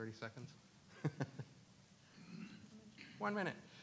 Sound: laughs

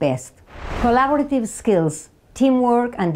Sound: slide whooshes

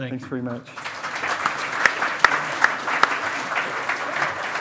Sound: loud clapping

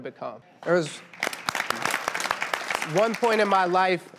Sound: applause

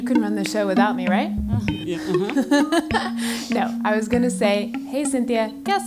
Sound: laugh

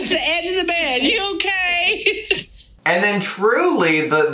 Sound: laughing

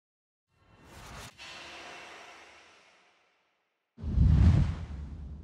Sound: logos whooshing

